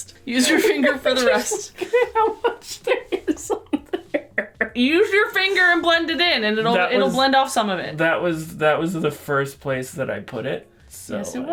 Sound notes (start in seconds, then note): 0.4 laughter